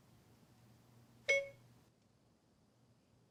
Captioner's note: phone beeping